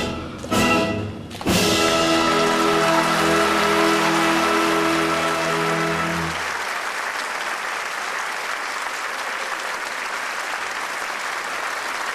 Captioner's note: applause